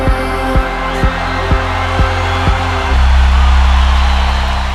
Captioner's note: audience cheering